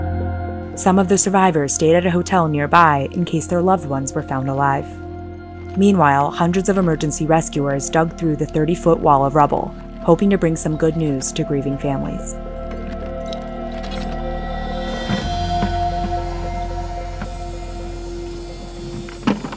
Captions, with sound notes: Some of the survivors stayed a hotel nearby in case their loved ones were found alive. Meanwhile, hundreds of emergency rescuers dug through the 30-foot wall of rubble, hoping to bring some good news to grieving families. (ominous music continues) (debris clatters)